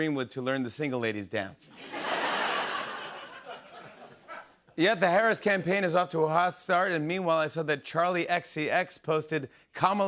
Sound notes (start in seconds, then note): 1.7 laughter